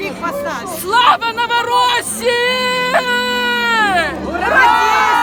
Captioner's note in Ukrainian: кричить "Слава новоросії!